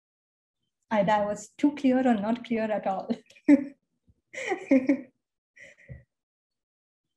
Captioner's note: laughs